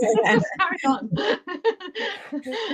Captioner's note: laughter